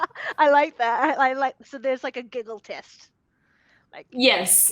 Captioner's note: laughing